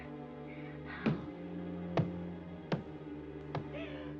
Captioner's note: thudding